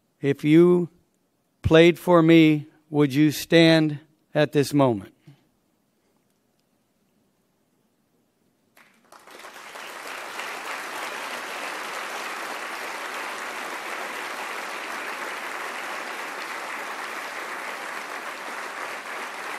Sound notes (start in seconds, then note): 8.9 applause